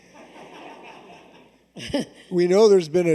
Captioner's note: laughter